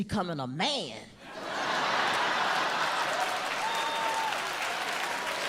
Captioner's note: audience laughs